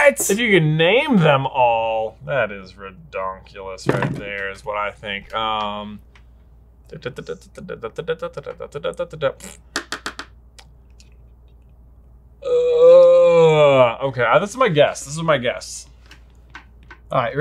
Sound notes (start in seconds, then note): 7.1 humming; 12.4 groaning